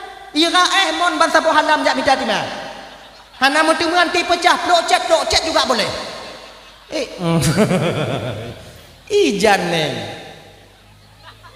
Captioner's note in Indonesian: tertawa